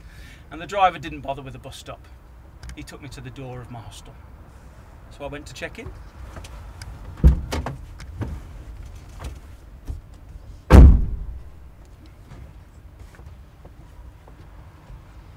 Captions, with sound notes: The driver didn't bother with the bus stop, he took me to the door of my hostel. So I went to check in. (door opens and slams shut)